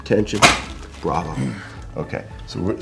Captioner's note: table clicks; clears throat